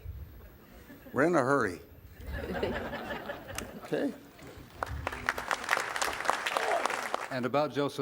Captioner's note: laugh; applaud